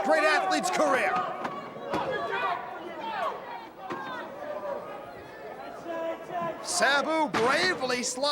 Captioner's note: crowd chatter